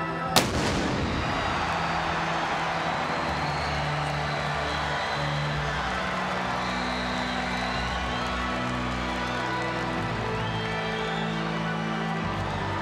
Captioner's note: applause